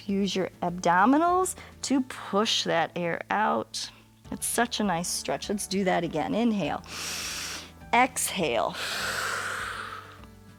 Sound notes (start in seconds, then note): 6.8 inhales; 6.8 exhales